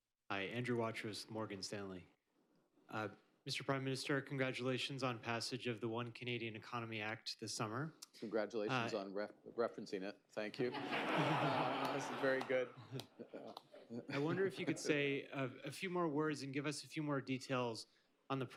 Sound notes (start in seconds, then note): 10.6 laughter; 13.6 laughs